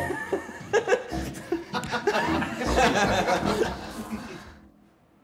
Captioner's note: more laughter